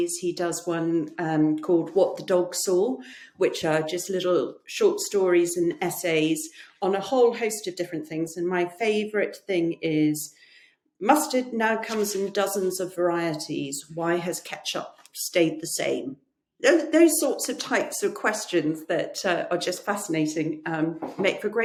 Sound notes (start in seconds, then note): 11.8 pages rustling; 21.0 books knocking